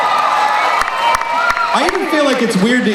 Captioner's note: cheering